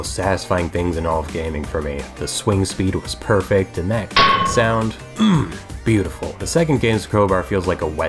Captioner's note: clang